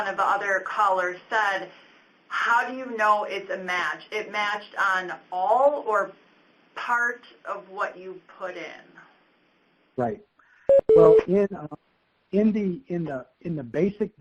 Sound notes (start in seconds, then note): 10.7 computer tone